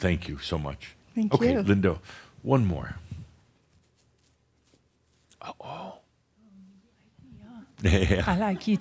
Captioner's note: whispering; chuckles